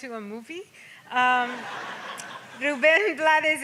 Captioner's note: audience laughs